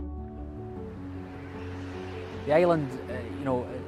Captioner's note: wind blowing